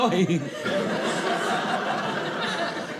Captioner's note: audience laughing